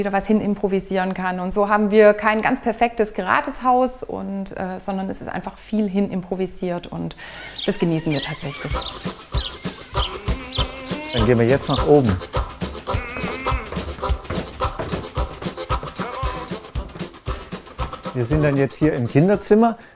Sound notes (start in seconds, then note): 9.4 birds chirping; 13.4 upbeat music